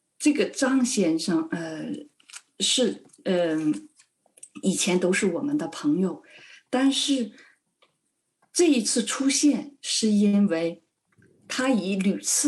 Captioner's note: speaking chinese